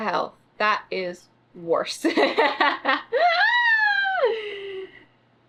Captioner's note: laughs